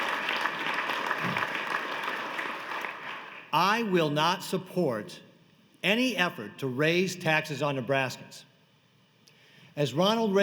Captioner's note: applause